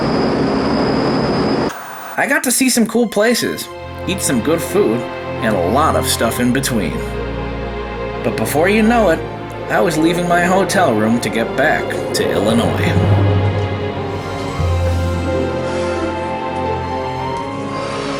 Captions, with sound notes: (white noise scratching) I got to see some cool places, eat some good food, and a lot of stuff in between. But before you know it, I was leaving my hotel room to get back to Illinois. (gentle orchestral music)